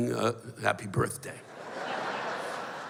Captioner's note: laughter